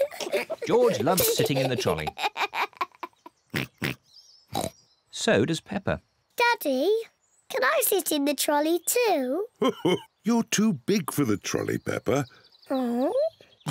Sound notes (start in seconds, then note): 1.7 giggles and oinks; 4.5 oinks; 9.6 chuckles